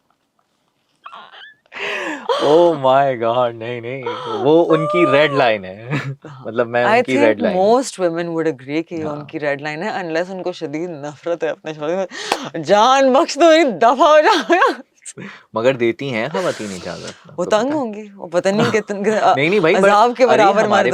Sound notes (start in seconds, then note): 1.8 suddenly heavy breathing sound